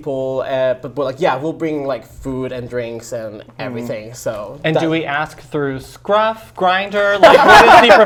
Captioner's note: laughs